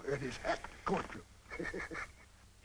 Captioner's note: laughs